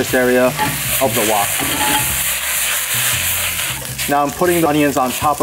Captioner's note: pan sizzling